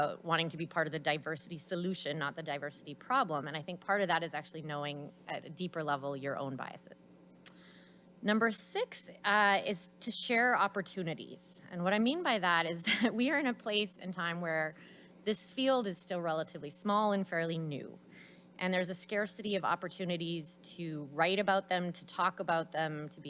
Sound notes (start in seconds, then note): 12.8 laughs